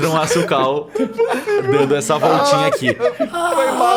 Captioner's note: laughter